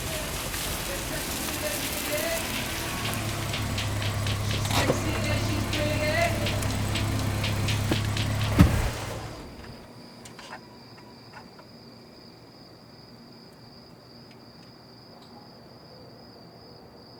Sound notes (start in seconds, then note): 0.1 radio playing; 9.5 crickets chirping